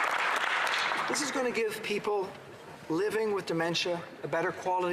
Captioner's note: applause